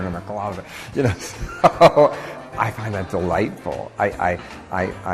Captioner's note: laughing